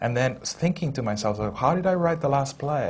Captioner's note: none